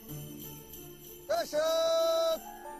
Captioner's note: reindeer call